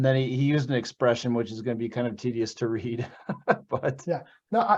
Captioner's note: laughs